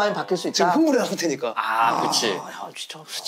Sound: exclaiming

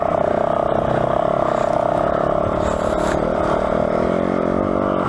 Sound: engine revving

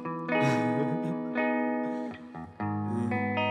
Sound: chuckling

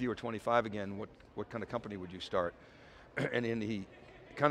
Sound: coughs

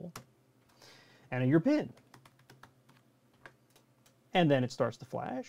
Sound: typing

